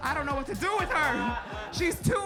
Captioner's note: audience laughing